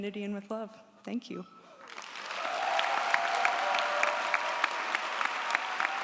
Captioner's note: audience applauds & cheers